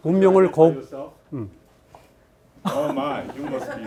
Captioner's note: speaking in Korean; student speaking distantly